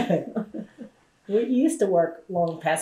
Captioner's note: laughter